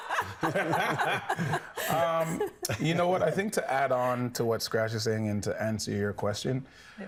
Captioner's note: everyone laughing